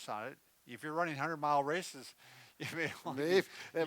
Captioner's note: laughs